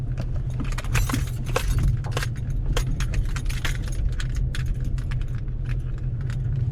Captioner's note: keys clanging against steering wheel